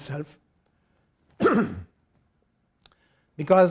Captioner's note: clears throat